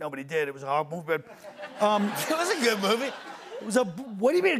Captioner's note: laughter